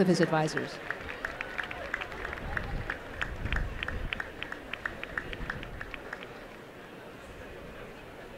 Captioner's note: applause